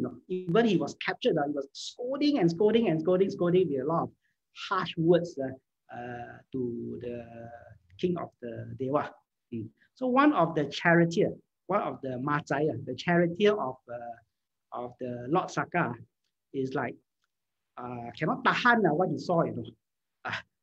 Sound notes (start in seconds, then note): 11.9 Cantonese